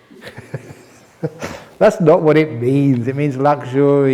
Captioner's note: chuckles